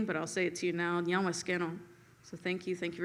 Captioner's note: greeting in Seneca